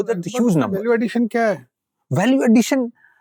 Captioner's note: speaking in Hindi